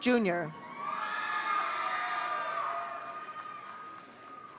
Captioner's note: audience cheering